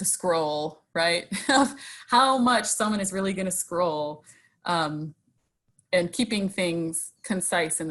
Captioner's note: laughs